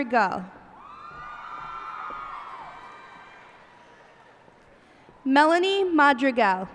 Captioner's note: cheers and applause